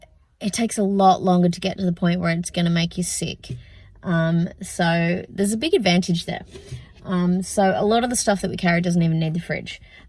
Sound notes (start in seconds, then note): none